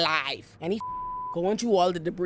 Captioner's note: beep